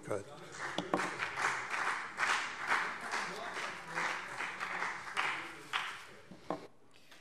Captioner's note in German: Beifall BÜNDNIS 90/DIE GRÜNEN